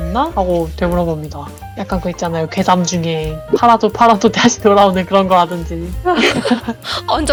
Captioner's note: laugh